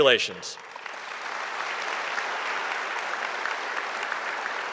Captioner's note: audience applauding